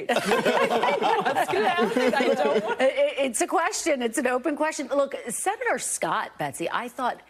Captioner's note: laughter